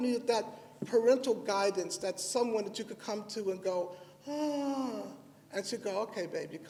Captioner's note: sighs